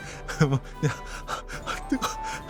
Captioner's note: sound of burning the roof of the mouth